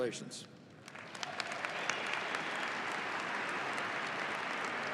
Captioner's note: audience applauding